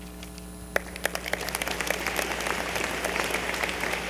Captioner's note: applause